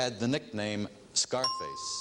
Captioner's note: ringing bell